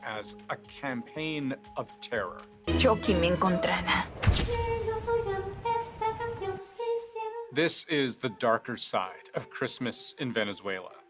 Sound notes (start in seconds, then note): 5.4 speaking alternate language